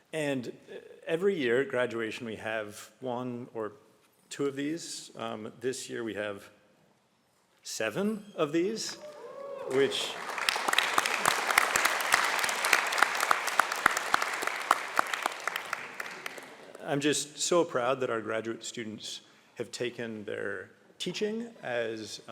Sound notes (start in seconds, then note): 9.0 applause